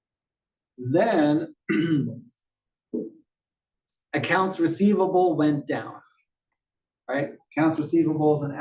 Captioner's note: cough